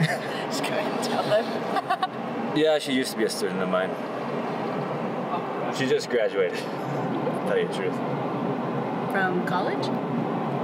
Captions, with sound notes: (laughing) - Just go ahead and tell him (laughs). - Yeah she used to be a student of mine. She just graduated, May-June. - From college?